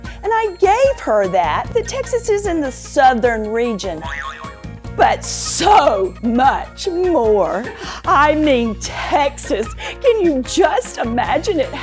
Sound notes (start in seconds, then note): 4.4 buzzer boing